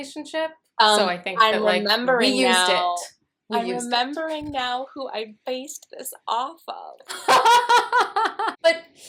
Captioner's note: laughter